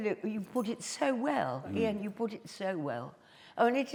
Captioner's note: none